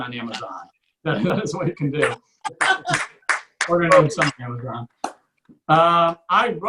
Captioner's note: audience or just one person claps